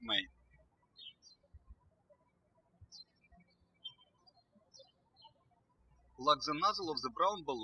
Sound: birds chirping

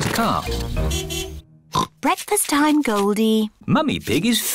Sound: oinks

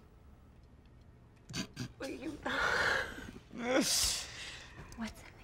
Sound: Alex laughing

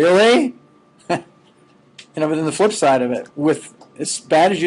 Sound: chuckling

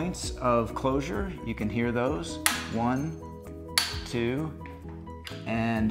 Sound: carrier locking

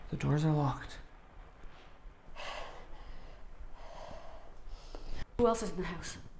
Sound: none

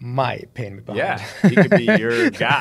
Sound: laughs

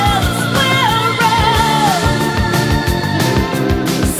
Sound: ahhhhhhh intensifies

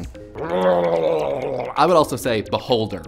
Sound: gurgling

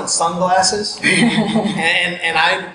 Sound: laughing

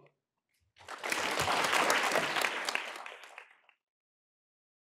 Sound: applause

